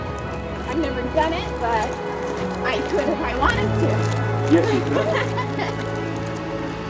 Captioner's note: chatter